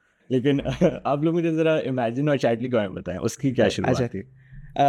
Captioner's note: laughs